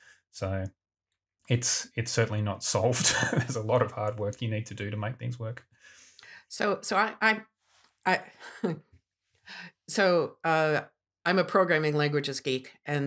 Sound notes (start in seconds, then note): 2.9 laughs